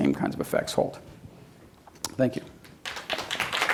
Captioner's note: clapping